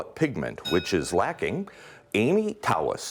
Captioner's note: ding